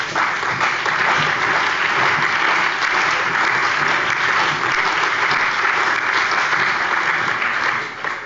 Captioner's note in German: Allgemeiner Beifall